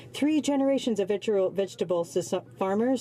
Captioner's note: speaking French